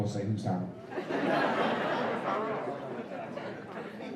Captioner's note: laughter